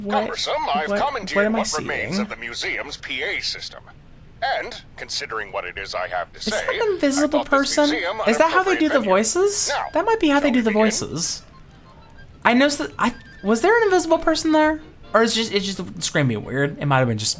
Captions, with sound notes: What, what, what am I seeing? (sighs) Is that an invisible person? Is that how they do the voices? That might be how they do the voices. I noticed that, was there an invisible person there? Or is it just the screaming weird? It might've been just